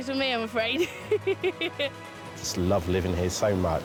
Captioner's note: laughs